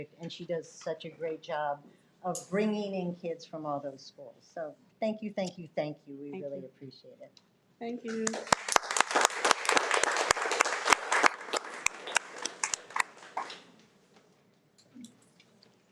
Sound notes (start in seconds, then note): 8.1 audience applauding